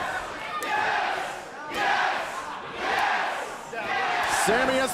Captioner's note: crowd cheering